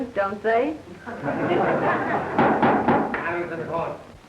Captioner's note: audience laughs